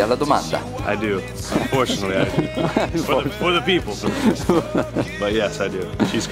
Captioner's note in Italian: risate